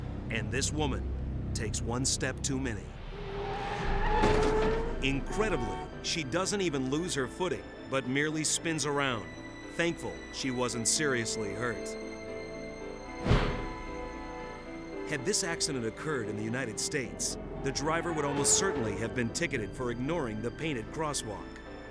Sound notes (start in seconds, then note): 4.3 tires screeching; 13.1 horns honking